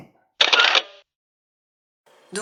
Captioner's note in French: bruit de photo